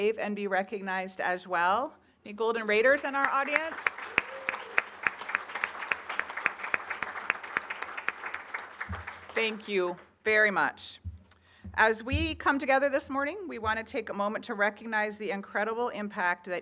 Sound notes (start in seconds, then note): 3.0 applause